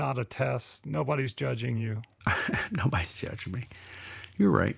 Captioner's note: laughs